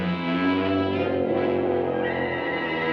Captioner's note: groaning